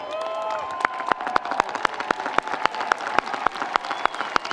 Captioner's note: audience cheering; audience applauding